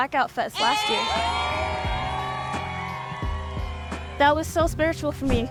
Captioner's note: crowd cheering